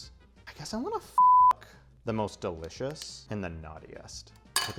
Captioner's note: beep